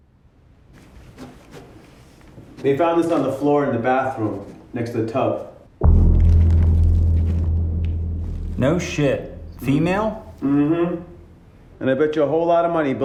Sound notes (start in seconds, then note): 1.0 pen scratching; 5.8 dramatic music